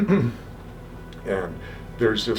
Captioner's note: clears throat